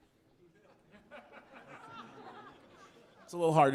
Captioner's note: audience laughing